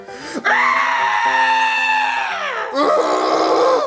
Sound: screams

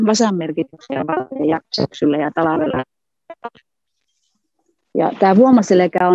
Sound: voice cuts off

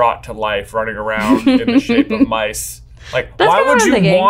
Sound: laughing

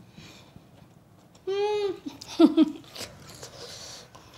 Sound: laughs

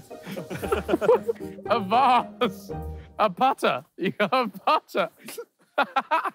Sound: laughs

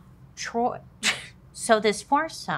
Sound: scoffs

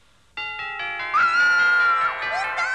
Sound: excited Scream

